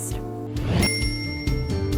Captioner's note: whoosh; bell dings; light music